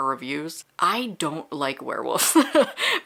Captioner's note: laughing